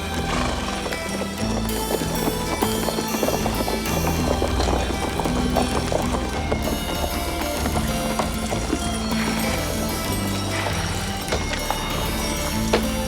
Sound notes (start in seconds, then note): 0.2 horse snorts; 2.1 hooves clop